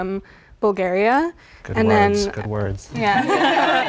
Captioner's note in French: rires